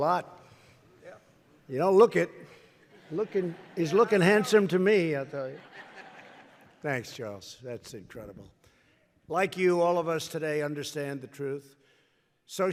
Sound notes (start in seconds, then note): 5.2 laughter